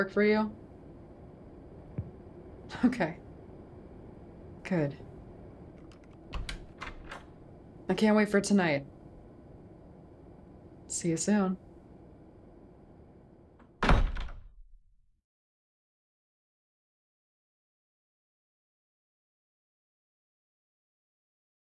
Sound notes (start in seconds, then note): 13.6 SFX: Door shuts; 16.6 muffled from door